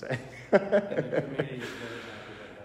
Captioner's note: laughing